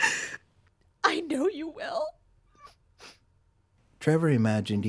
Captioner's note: sobbing